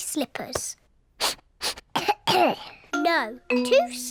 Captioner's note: sniffs and coughs